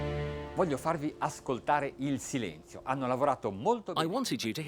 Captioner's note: speaking in foreign language